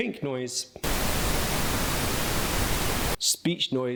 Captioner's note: static blaring